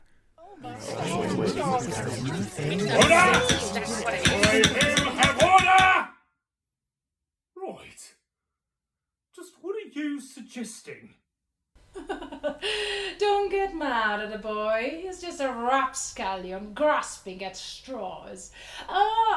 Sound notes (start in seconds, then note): 0.5 the CROWD murmurs; 4.2 gavels; 12.1 laughs